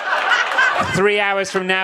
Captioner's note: audience laughs